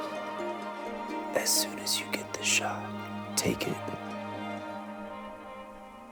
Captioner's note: whispering